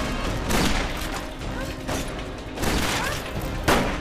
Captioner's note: guns firing